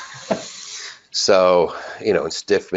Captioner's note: laughs